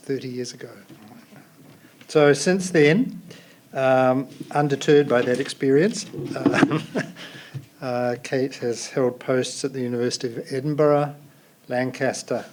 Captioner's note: laughs